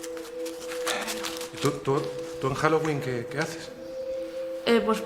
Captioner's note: sighs; stuttering